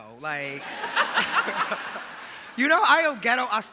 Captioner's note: audience laughing